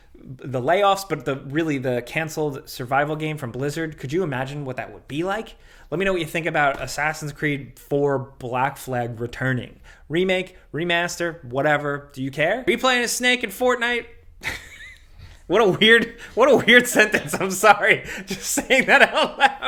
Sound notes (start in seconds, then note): 15.6 laughing